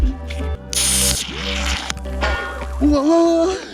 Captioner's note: beer opening